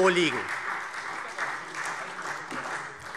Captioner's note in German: Beifall